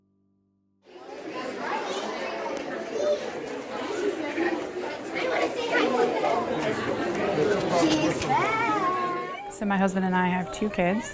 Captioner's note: children talking